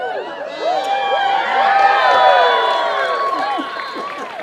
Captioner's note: applause